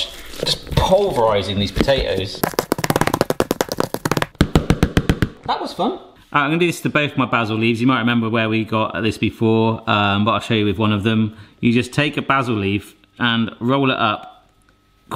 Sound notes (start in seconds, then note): 2.4 potato masher hitting bowl